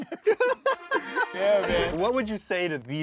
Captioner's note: laughing